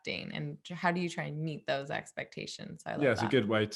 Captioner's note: murmurs